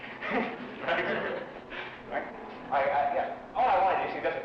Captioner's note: laughing